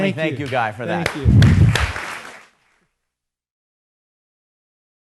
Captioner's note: applauding